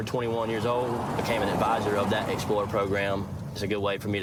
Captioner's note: vehicle accelerates